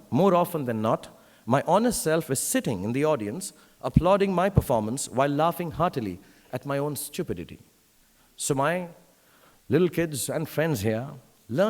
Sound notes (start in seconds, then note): none